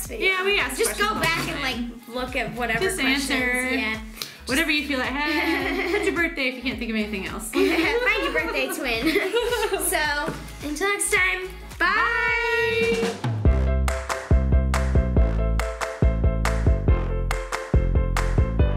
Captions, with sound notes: this video. - Yeah we ask questions all the time. - Just go back and like, look at whatever questions yeah. - Just answer, whatever you feel like hey! Put your birthday if you can't think of anything else. (laughs) - Find your birthday twin, so, until next time. Bye! (upbeat melodic song)